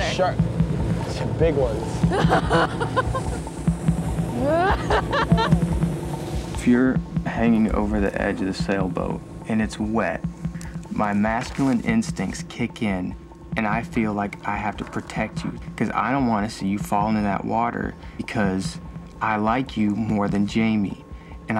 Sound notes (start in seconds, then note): 2.4 laughing